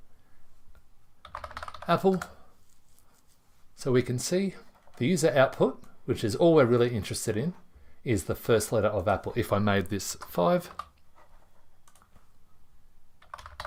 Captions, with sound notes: (typing) Apple. So we can see, these are output, which is all we're really interested in, is the first letter of output. If I made this five,